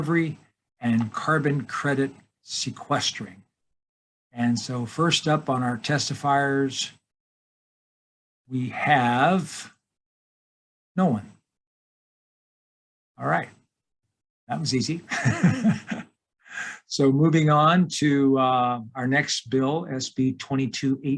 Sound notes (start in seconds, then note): 15.0 laughing